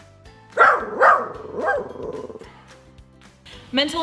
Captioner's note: dog barking